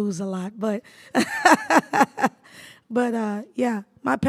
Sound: laughs

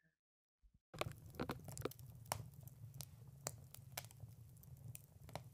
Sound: fire Crackles

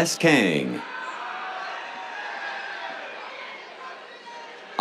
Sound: cheers

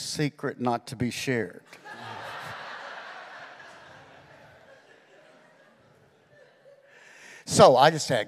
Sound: congregation laughing

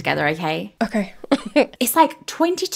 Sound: laughing

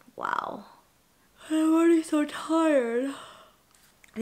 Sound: yawning

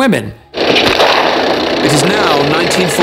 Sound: guns roaring; suspenseful music

